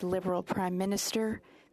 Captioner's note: speaking French